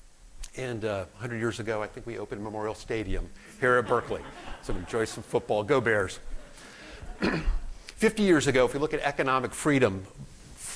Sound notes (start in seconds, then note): 3.6 laughter